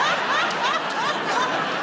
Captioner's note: laughter